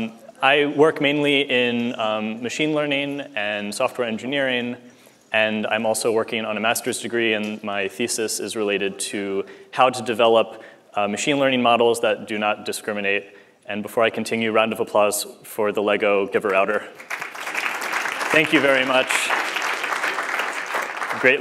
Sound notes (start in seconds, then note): 16.9 applause